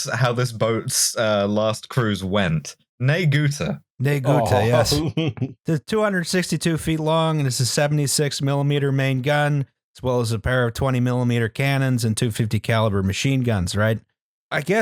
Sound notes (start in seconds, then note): 4.2 laughs